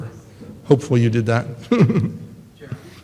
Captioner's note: laughs